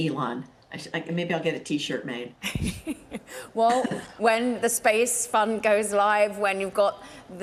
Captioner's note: laughter